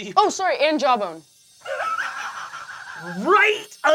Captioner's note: laughing